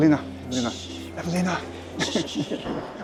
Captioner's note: laughs